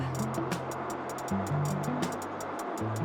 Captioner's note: train rattling